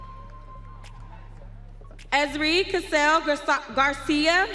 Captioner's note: audience cheering